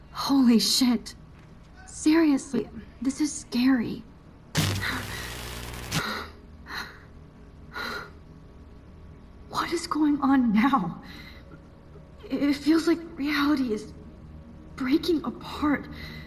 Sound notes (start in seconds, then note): 4.5 distorted Scene Change; 4.6 Max Panicking